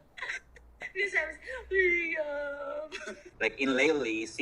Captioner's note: crying